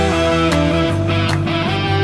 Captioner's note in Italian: Applauso